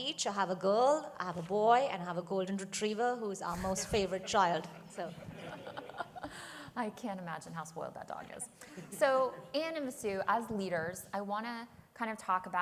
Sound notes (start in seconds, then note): 3.9 laughter